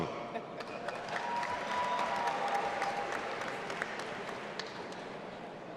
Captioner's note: audience applauding and cheering